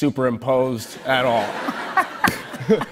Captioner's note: laughter